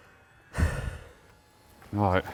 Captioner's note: sighs